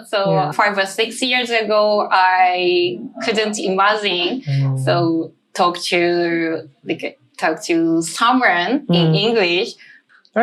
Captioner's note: talking